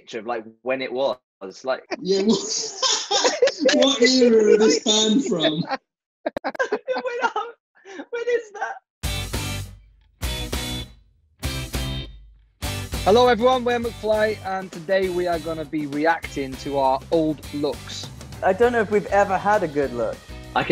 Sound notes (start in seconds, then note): 1.7 laughing; 9.1 cheerful pop music